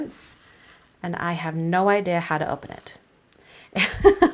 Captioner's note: laughs lightly